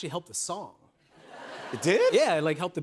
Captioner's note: laughter